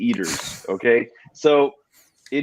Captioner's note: laughs